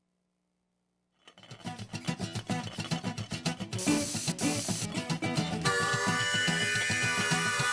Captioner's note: pot rattling; upbeat music